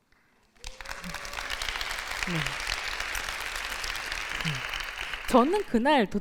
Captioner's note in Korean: 박수